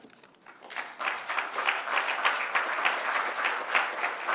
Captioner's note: applause